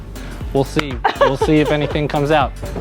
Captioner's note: laughing